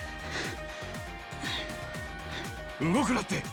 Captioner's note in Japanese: 笑い